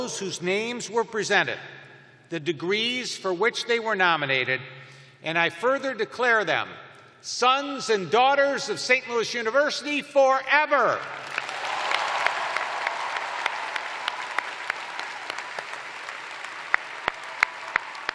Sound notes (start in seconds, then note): 6.1 cheers and applause